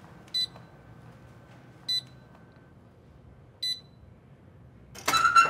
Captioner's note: beeping